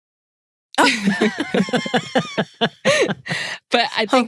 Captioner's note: laughing